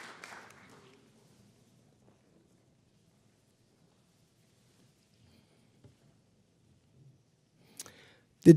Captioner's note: applause